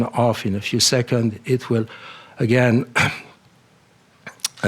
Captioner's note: clears throat